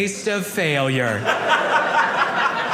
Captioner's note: audience laughing